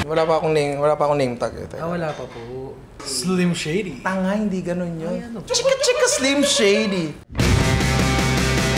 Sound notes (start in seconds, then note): 5.3 imitates a sound